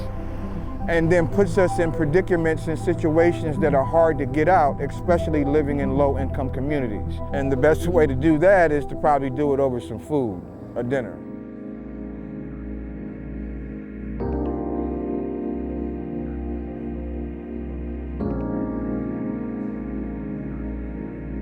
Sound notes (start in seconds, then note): 10.7 people chatting; 11.5 groovy music